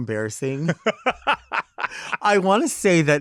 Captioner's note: laughing